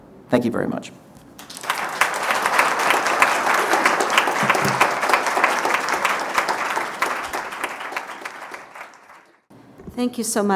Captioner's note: applause